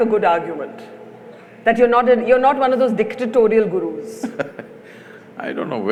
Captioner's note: Sadhguru laughs